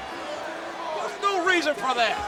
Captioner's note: crowd chattering